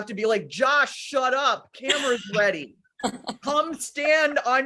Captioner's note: laughing